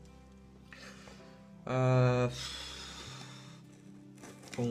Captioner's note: phew